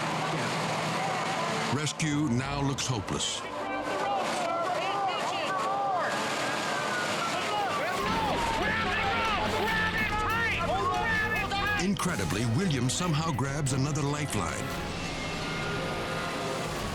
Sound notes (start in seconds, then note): 5.4 rescue workers yelling